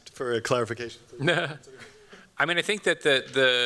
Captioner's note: chuckles